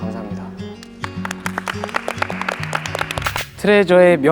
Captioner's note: clapping